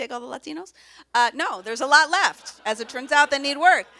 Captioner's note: audience laughs